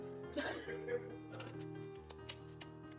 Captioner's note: laughter